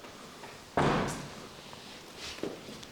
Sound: bang

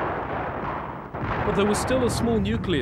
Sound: guns firing

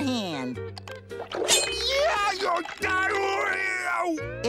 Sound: screaming

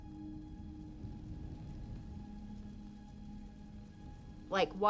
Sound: fire crackles

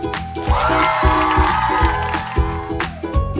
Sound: crowd cheering and applauding

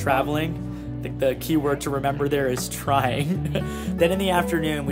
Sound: laugh

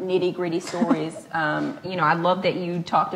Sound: laughs

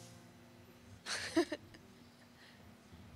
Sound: laughing

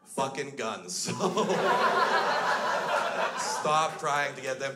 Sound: crowd laughs

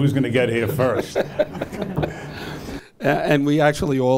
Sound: audience laughs

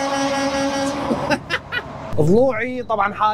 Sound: laughing

